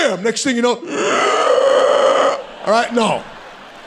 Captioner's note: Sebastian breathing loudly